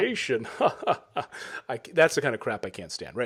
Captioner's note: both fake laughing